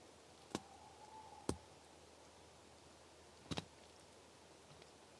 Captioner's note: twigs snapping outside